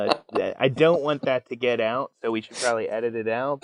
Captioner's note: laughing